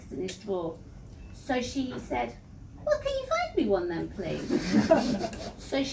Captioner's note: laughter